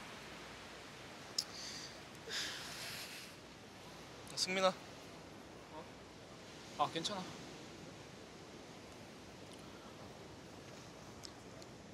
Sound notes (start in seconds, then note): 1.4 clicks tongue, sighs